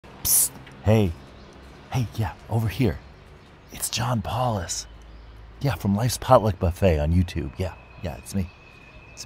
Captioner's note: city street sounds in background